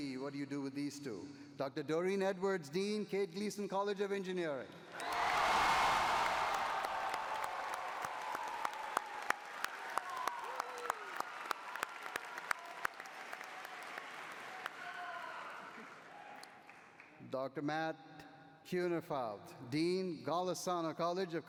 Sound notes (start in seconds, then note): 5.0 cheering